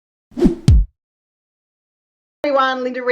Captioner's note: page whooshing